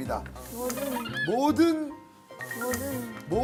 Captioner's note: sound of brain gears turning